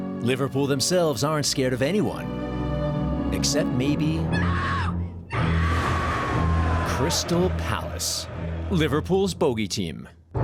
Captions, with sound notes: Liverpool themselves aren't scared of anyone. Except maybe .... (woman's scream) Crystal Palace. Liverpool's bogey team.